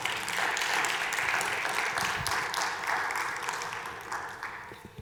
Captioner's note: audience applauding